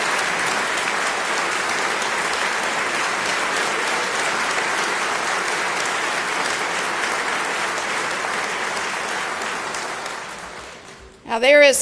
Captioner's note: applause